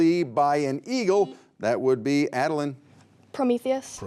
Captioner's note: beep